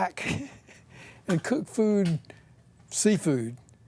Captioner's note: chuckles